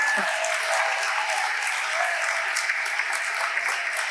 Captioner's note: audience applauding